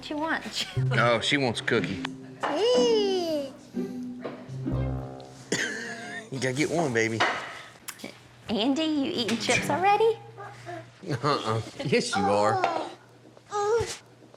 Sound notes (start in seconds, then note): 5.5 laughs